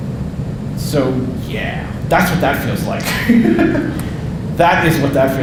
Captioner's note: laughing